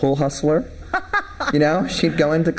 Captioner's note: laughs